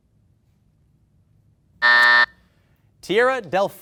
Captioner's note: buzzer buzzing